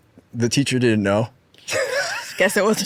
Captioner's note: laughs